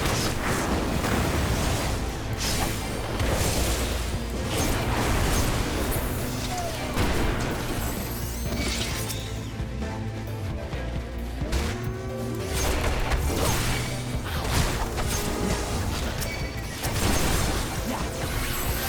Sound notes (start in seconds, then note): 8.9 explosions